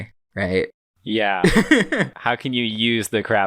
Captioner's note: laughs